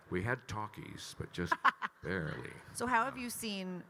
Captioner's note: laughing